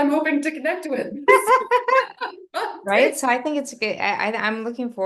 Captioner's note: laughs